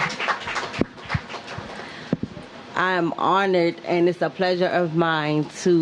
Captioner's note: applause